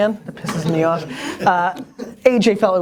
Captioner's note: laughter